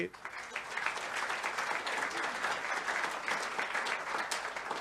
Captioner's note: audience applause